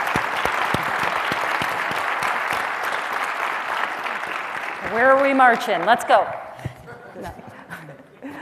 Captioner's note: applause